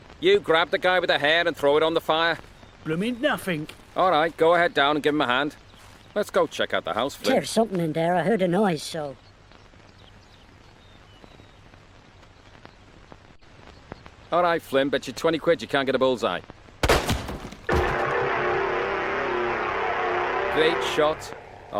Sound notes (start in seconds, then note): 9.6 birds chirping; 16.8 gunshot popping; 17.7 sinister music